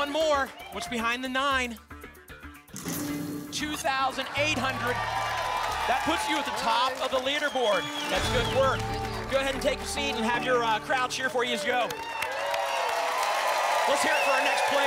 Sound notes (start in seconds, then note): 12.6 applause